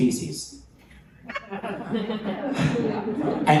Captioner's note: laughter